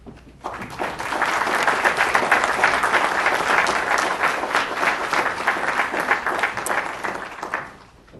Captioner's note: applause